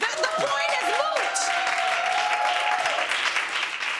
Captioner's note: applause